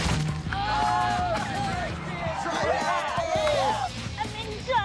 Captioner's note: boys cheer and laugh